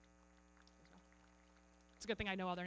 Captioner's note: everybody clapping